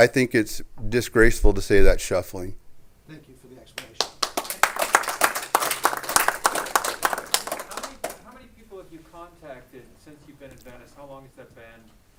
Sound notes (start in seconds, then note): 3.7 clapping